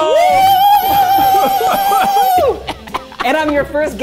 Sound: laughing heartily

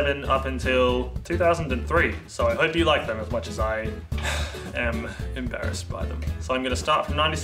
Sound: sigh

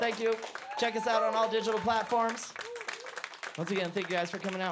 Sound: applause

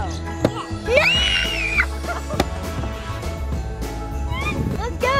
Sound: upbeat outro music; screaming

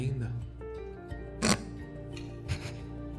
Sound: chuckles

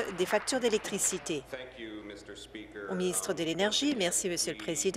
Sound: applause

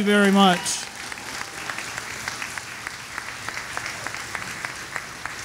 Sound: audience applauding

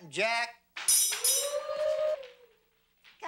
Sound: bell rings

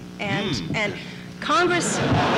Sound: laughter

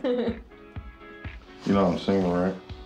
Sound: Debbie giggling

